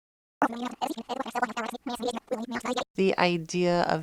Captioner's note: cool rewinding effect